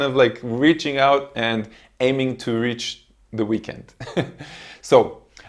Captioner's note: laughs